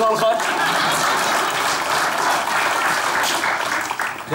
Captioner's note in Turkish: Alkış sesleri